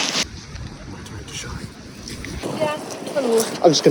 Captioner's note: random chatter